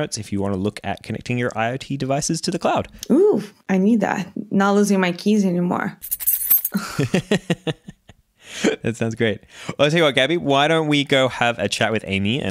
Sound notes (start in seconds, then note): 6.0 rattling; 7.7 laughs